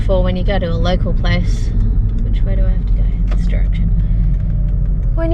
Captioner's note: blinker clicks on